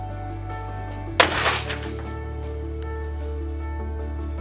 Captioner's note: crash and rustling slide